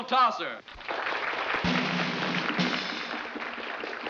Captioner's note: applauding